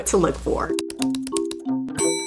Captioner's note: typing sounds